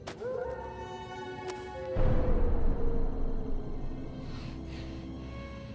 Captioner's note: howls getting closer and louder; hard breathing